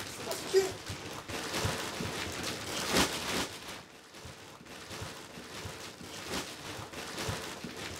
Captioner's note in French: bruit infernal de frottement de plastique dur